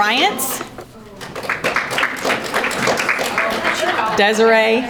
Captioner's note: audience applauding